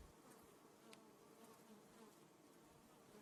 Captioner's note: bees hum